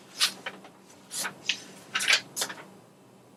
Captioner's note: rustling paper